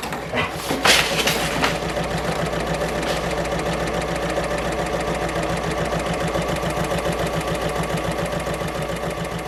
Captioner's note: sewing Machine Sounds